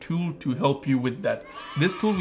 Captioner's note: children cheering